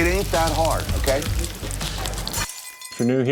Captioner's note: food sizzling; glass breaking